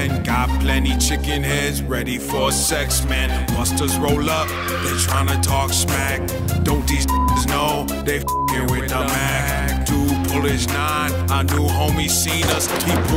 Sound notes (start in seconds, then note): 8.2 beep